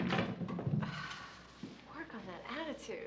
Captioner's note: Allison sighs